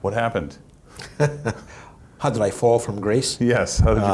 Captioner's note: laughs